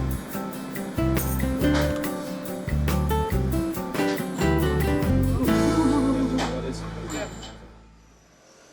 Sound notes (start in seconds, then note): 5.0 sounds of approval